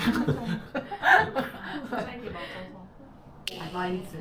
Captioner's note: just laughing^-^